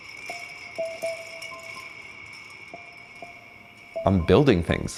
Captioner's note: bells jingling